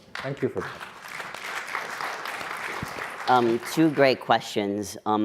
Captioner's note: audience clapping